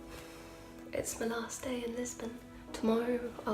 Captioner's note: sigh